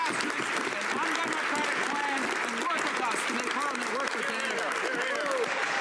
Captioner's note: some Applause